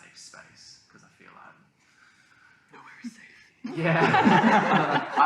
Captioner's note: whispers